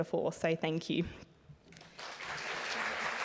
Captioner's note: applause